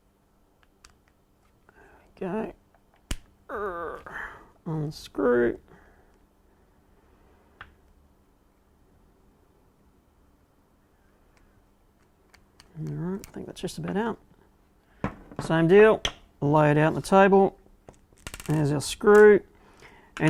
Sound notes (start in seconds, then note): 3.5 groans